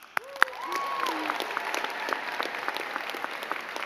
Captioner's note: all clapping